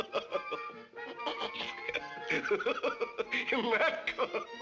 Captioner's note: laughing